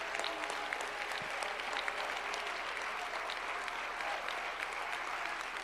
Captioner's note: applause